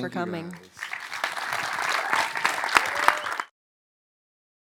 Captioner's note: audience applause